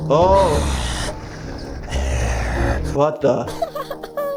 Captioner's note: Flippy growling